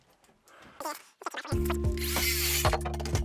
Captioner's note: wood clattering; tape fast forwarding; drill whirring